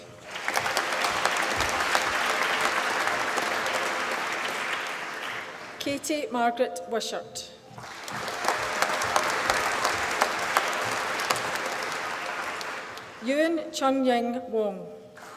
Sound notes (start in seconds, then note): 0.0 applause; 7.8 applause